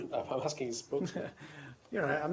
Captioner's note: laughter